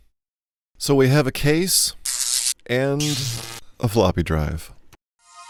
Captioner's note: zap; buzz